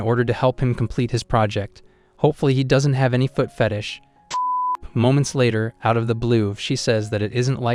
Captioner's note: beep